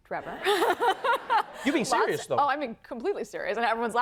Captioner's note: laughs